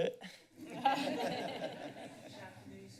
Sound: laughter

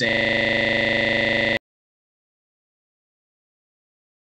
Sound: system glitching

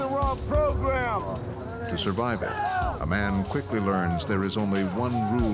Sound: voiceover

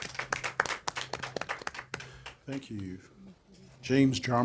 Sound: applause

